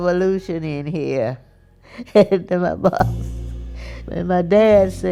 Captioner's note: laughter